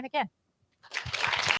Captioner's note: applause